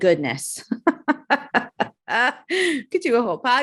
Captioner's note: giggling